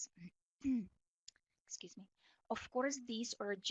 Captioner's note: clears throat